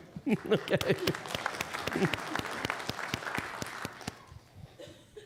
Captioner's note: audience laughing; applause